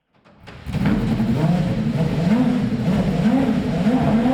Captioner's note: car revs